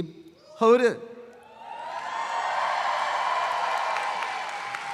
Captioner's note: audience applauds